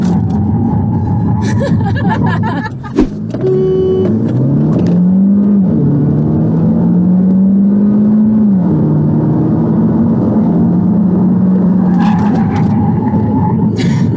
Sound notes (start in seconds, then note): 1.4 laughter; 4.1 engine revving